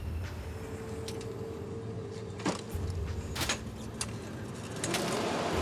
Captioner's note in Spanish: ruido de aviones saliendo; ruidos con la camilla